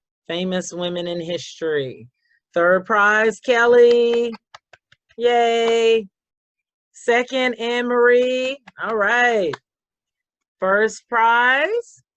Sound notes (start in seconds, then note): 3.8 clapping